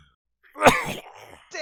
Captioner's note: cough